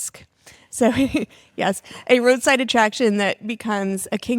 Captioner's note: laughs